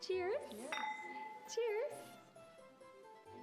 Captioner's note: glasses clink